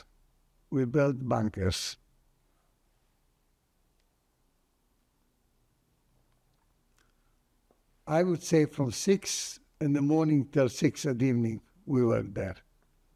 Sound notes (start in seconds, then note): 2.0 pauses 6 seconds